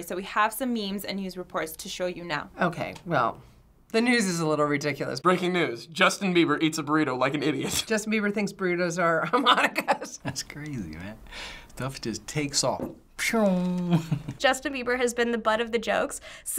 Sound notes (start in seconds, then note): 7.5 snickers; 9.9 laughs; 13.7 chuckles